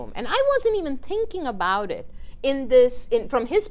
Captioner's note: none